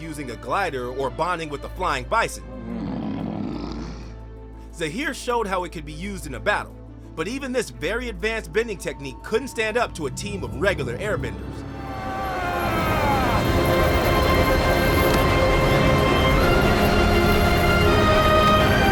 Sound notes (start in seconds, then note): 4.9 growling; 14.8 screaming